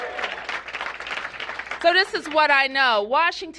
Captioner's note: applause